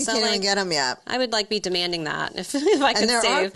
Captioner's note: chuckles